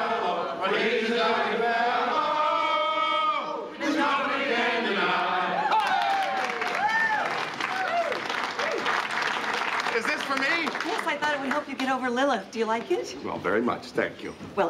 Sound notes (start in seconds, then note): 5.4 cheering